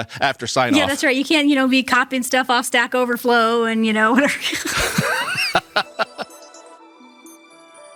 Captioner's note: laugh